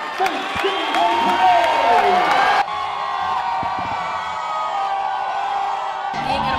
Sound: cheering

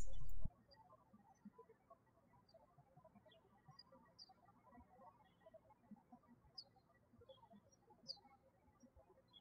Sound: birds chirping

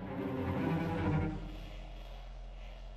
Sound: static

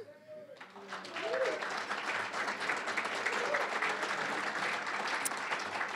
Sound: applause, cheering; applause

